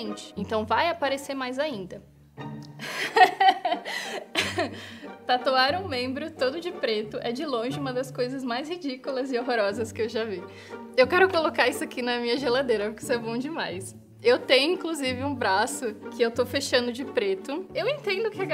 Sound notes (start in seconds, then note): 2.8 laughter